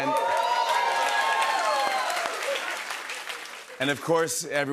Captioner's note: cheers and applause